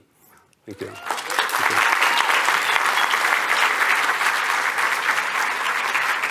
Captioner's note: applause